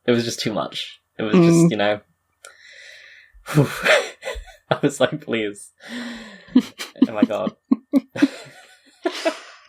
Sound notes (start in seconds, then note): 1.7 laughs